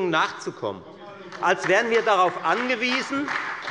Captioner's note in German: Beifall bei der FDP und der SPD